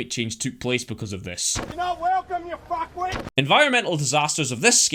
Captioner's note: Bogan yelling at Scott Morrison